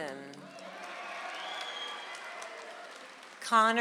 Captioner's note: audience applauds